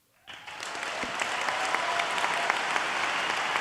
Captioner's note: applauding